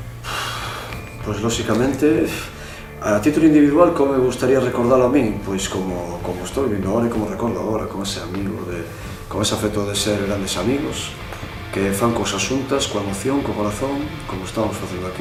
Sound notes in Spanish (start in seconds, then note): 0.3 suspiro